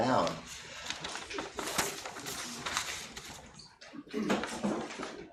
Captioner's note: paper rustling